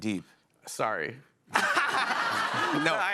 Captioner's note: laughter